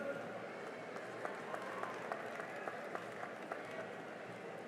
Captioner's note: cheering and applause